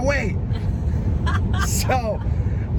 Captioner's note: laughing